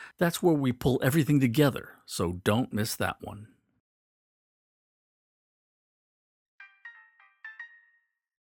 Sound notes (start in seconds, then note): 6.6 chime